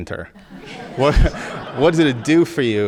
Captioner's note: audience laughing